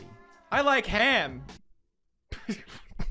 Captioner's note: laughs